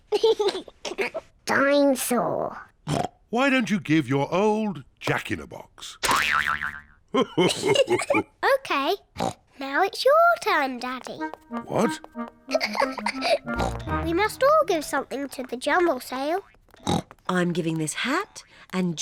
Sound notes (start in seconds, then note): 0.1 laughs; 2.9 oinks; 7.2 laughs; 12.5 giggles; 16.8 oinks